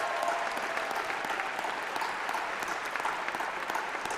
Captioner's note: applause